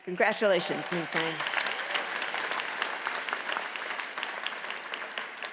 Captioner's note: audience applauds